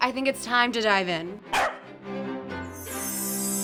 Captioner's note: corgi barking; majestic music; sparkles tinkling